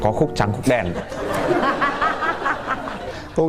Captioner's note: laugh